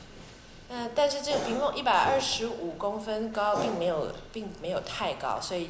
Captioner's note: Mandarin